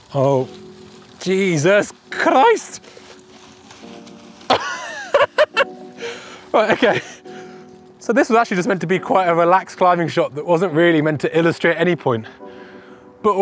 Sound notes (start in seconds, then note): 4.5 laughs